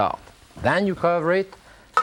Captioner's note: top clinks